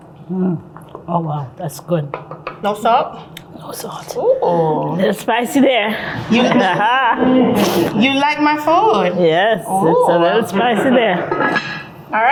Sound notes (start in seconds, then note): 5.9 laughs